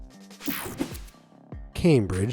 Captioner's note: screen whooshing